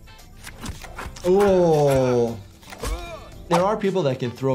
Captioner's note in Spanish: Superman gruñendo